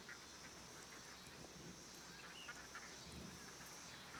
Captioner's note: none